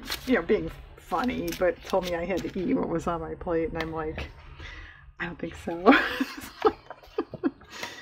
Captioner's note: laughs